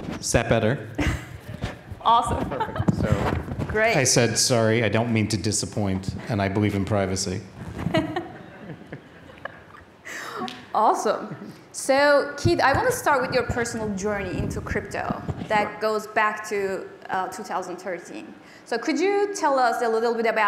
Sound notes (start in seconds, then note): 7.8 laughter